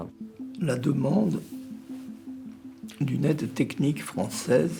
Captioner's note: speaking in French